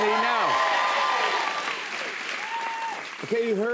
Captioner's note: cheers and applause